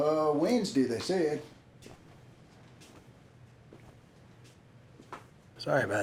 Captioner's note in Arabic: خطوات بطيئة